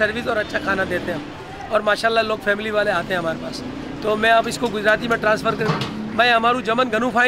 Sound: speaks in Gujrati

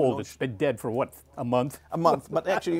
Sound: laughs

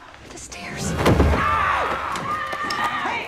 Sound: thudding, screaming

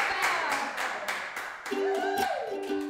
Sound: applause and Cheering

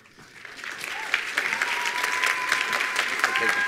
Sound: attendees applauding

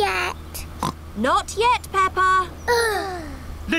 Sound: oinks; both sigh

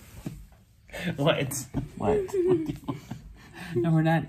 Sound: laughs

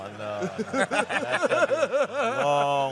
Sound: laughing

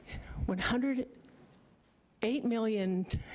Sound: stammering

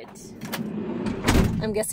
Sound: door sliding shut

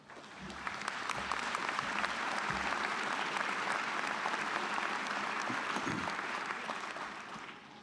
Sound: applause

